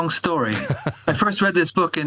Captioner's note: laughs